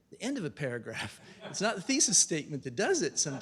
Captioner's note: laughter